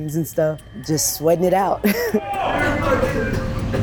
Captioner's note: laughs